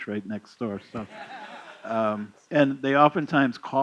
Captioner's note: laughter